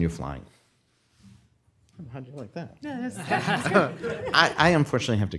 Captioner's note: laughter